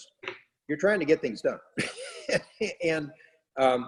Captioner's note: laughs